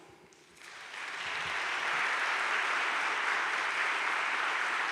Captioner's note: audience applauding